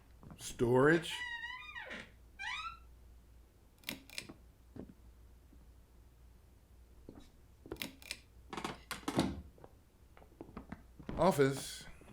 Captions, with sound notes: Storage. (door squeaks open, pull switch light on) (footsteps, light is pulled off, door closes) Office.